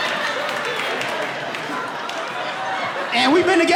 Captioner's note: audience laughing